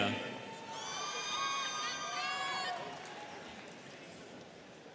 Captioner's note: students cheering